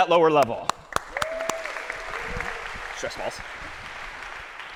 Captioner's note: applause